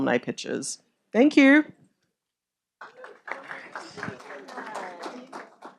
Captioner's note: audience applauding